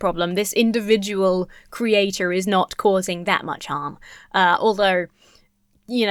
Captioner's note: none